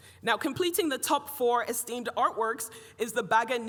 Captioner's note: none